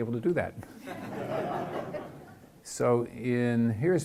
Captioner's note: chuckling